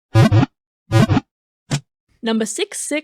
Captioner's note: Pokéball wiggle sound